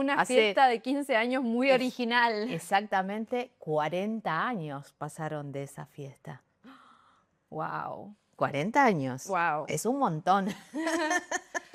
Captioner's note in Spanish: risas